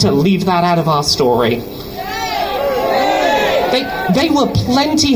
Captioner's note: crowd shouts "Shame"